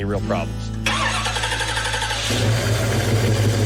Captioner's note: engine starts